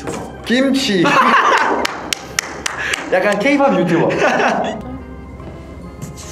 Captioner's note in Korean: 웃음